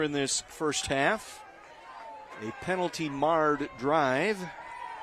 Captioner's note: applause